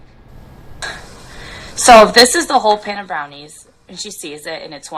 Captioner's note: voiceover